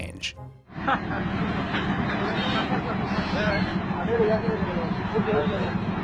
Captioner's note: officers speaking in foreign language